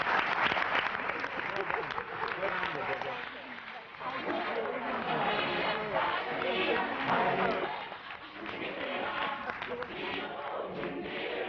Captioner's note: applause